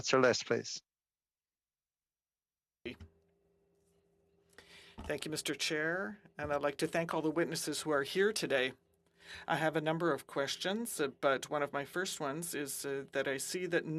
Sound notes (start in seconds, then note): 10.7 speaking French